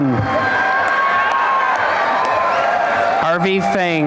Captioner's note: applause and cheering